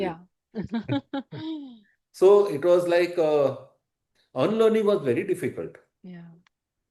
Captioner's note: laughter